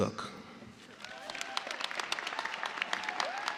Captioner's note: cheers and applause